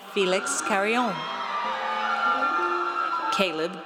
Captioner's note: audience cheers